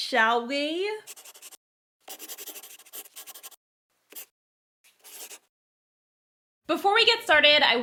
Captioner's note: the sound of a pen scratching. LOGO